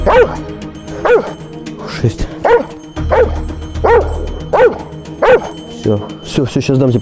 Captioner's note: dog barking